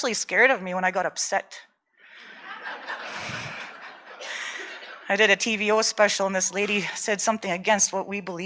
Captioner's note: audience laughter